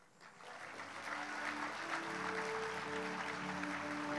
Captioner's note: audience applauds